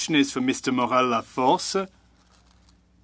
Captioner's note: speaking French